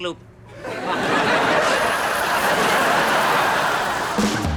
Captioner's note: audience laughs